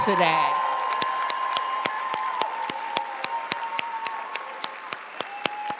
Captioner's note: audience cheering and applauding